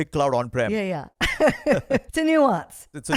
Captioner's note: laughs